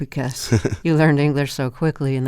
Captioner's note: laughter